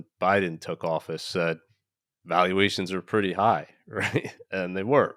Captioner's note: laughing